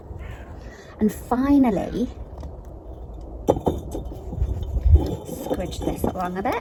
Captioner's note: bricks scraping